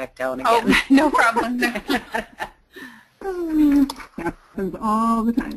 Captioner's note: women chuckle